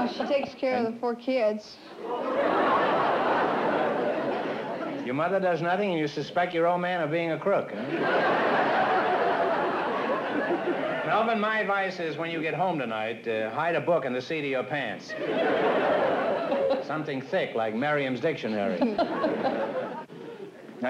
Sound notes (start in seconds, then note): 2.0 laughter